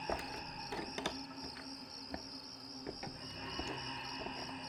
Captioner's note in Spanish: gritos de grillos